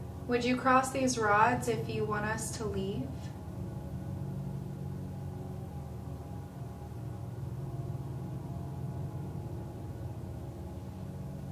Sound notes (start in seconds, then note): none